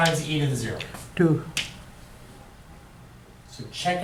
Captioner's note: voiceover